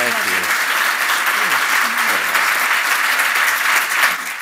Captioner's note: applause